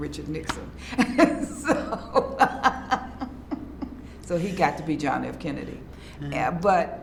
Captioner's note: laughs